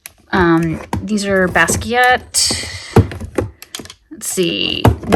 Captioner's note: item thudding